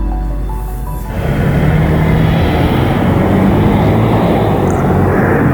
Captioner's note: car engine humming